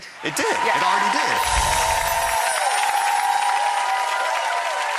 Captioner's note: audience cheers